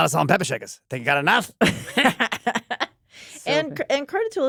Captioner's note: laughter